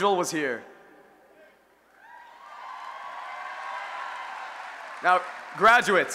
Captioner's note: cheering